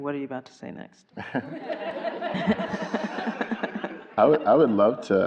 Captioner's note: everyone laughing